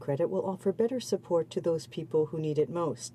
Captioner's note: speaking French